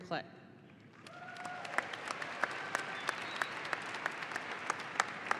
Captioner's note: audience applauding